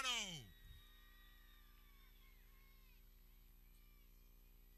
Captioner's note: people cheering